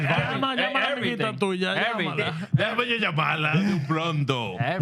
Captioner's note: speaking Spanish